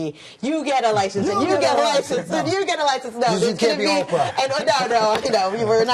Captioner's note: laughter